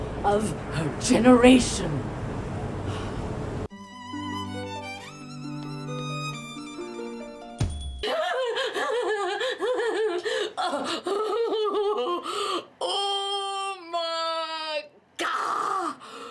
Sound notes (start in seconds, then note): 3.7 bright violin music; 8.0 laughs